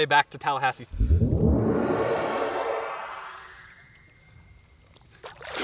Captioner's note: magical sounds